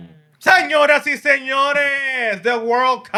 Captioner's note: speaking Spanish